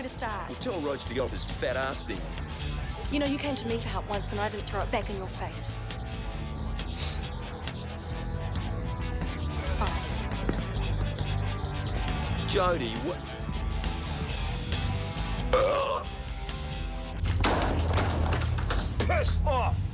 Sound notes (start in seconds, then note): 6.9 John sniffs; 15.4 man burps